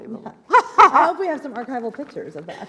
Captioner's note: laughs